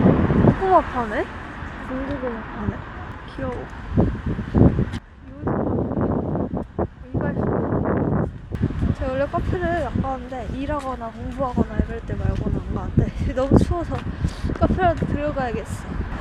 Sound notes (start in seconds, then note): 5.9 wind noiseㅠㅠ